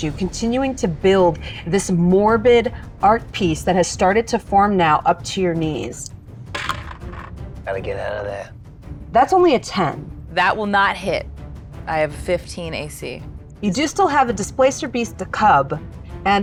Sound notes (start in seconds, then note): 6.5 dice clinks